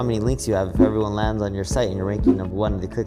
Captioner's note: graphics whooshing